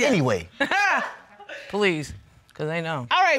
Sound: chuckles

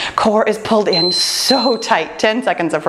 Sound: timer beeps

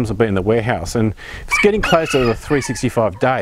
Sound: rooster crowing

